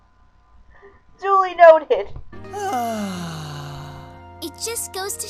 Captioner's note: sighs happily